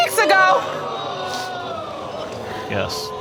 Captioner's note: audience exclaims